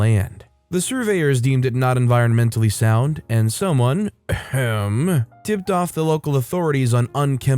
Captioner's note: ehem